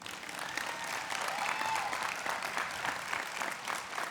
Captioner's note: clapping